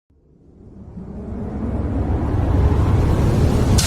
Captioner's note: whooshing